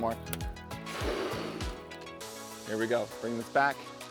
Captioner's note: air filling balloon